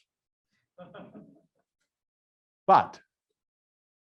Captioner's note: student laughs faintly